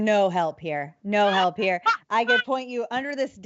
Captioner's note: laughs